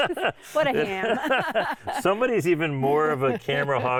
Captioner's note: laughing